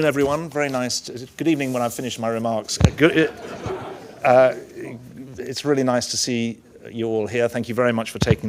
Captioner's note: laughter